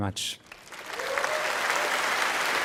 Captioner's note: applause